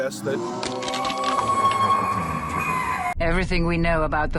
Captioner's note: monster noises